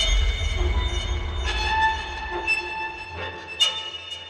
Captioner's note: eerie music; metal swing screeches